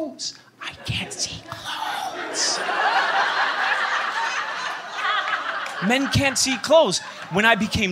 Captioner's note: laughter